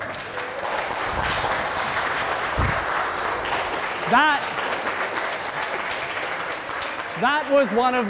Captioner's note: applause